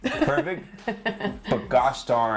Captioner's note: laughs